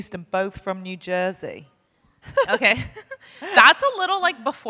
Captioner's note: laughs